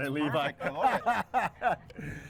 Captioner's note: laughs